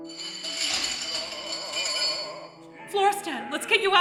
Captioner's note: metal bar clatters